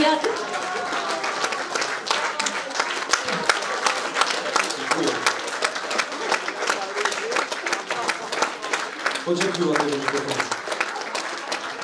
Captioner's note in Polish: oklaski